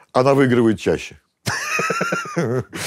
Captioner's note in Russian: смеется